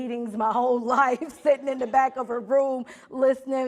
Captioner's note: audience laughing